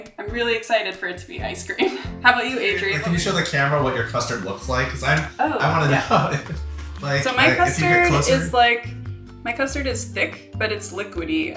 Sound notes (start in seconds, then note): 7.1 laughs